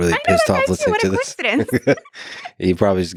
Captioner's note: laughs